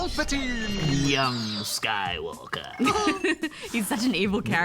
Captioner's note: laughs